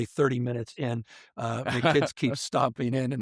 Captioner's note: interviewer laughs